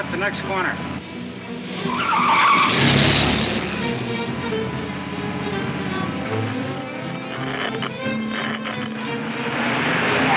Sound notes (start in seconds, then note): 0.8 car wheels screech; 6.0 radio crackles